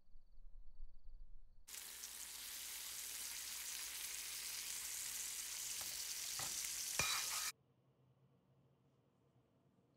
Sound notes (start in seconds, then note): 1.6 grease sizzling